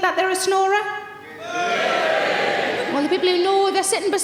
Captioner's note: audience members yell